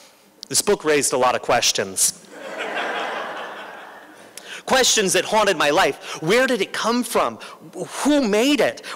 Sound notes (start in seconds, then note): 2.3 laughter